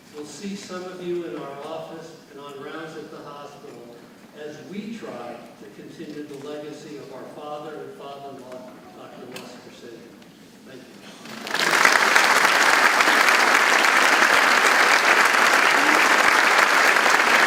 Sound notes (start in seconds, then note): 11.2 audience clapping